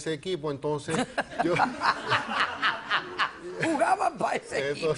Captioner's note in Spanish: Risas